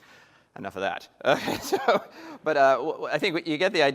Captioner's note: laughter